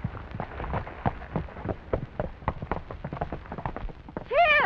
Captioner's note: hooves clattering